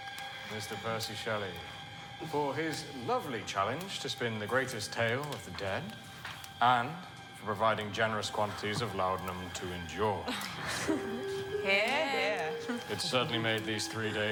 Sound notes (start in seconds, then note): 10.2 Claire laughs